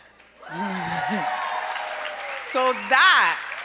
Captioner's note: applause